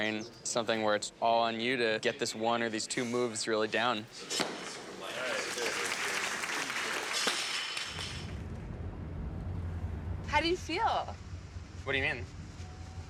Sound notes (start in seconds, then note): 5.0 applause